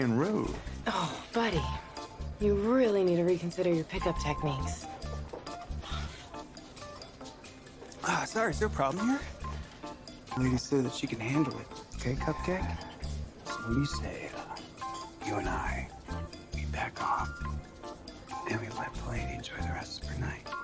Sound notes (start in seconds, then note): 5.8 scoffs